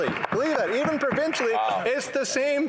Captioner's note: some Applause